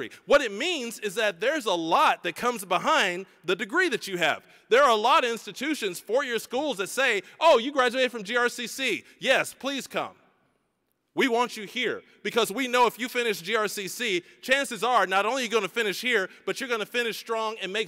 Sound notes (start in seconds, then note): none